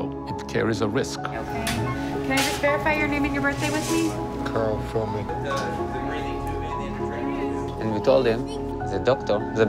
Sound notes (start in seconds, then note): 5.3 people chattering